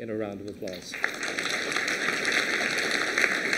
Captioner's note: applause